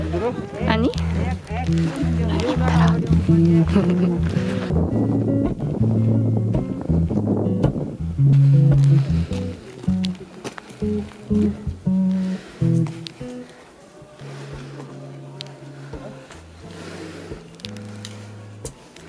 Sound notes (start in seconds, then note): 8.3 heavy breathing